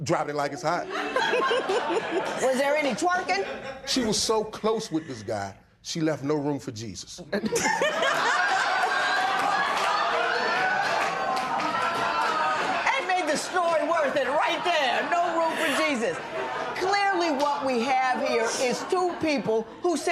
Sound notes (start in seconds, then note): 7.3 laughter